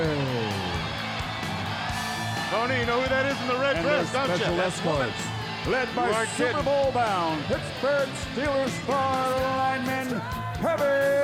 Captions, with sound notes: (audience roars) (upbeat rock music) Tony, you know who that is in the red dress, don't ya? That's Woman! You weren't kiddin'. Led by Super Bowl bound, Pittsburgh Steeler star lineman, Kevin Greene!